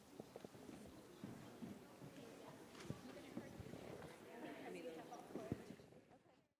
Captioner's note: audience murmurs